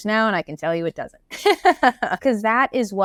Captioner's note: laughs